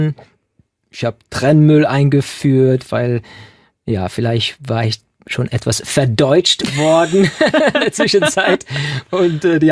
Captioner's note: laughing